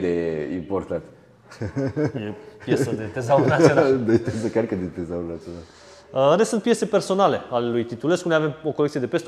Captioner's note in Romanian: Râsete